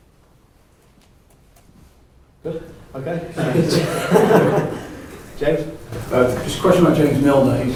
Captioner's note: scattered laughter